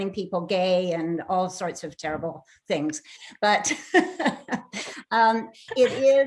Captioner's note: chuckles